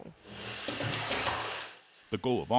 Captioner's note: water burbling